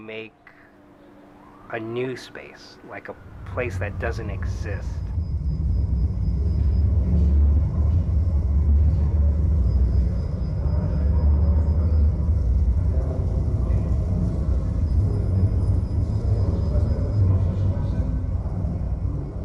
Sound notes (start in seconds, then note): 7.5 sound waves resonating